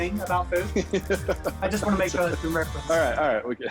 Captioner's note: laughing